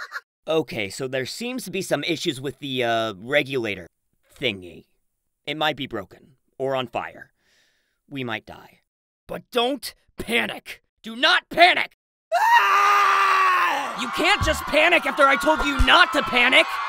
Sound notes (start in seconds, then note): 12.4 panics